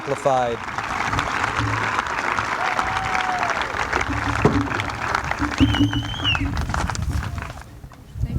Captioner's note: applause continues